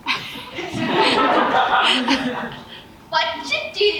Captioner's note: audience laughs